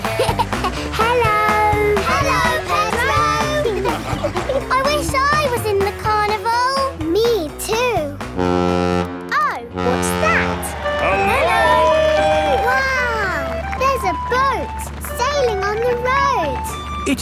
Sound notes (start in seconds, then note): 0.0 laughing; 9.7 horn bellowing